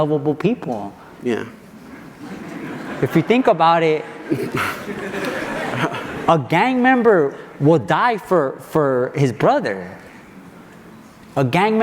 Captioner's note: audience laughs